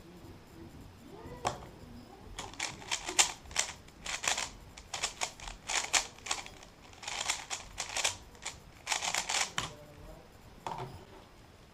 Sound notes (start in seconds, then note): 2.2 cube noises